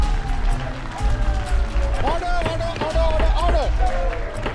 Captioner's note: laughs